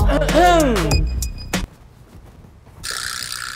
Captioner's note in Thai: กรอไปข้างหน้า